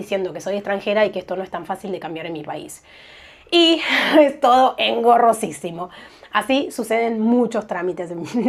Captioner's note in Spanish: risas